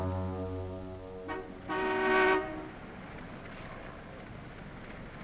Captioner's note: horn honking